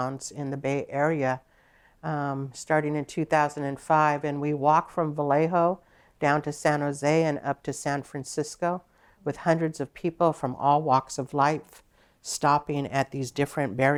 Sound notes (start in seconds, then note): none